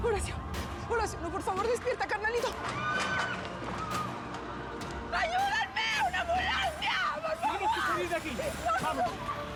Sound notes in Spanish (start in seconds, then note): 2.6 griterío; 9.0 gritos